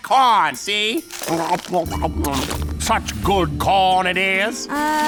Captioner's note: gobbling